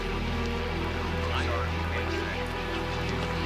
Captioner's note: none